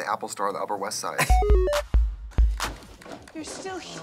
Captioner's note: retro video game sound effects